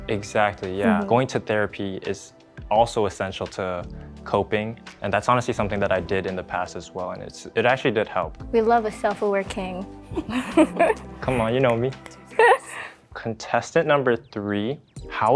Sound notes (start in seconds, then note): 10.1 laughs; 11.2 snapping and laughing